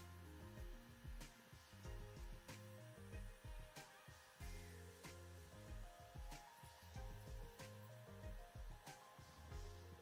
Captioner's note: pressure washing